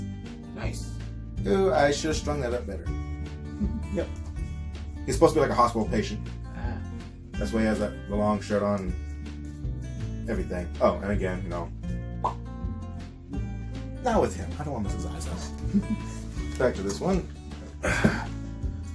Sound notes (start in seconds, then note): 11.8 pop